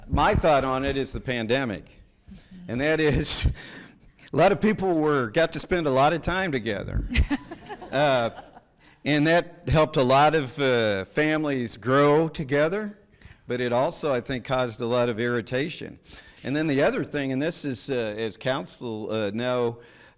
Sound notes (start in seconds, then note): 7.1 people laughing